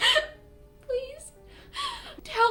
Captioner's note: solemn music; crying